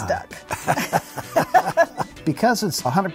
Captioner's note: both laughing